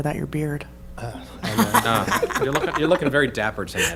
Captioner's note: laughter